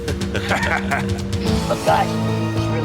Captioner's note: laughin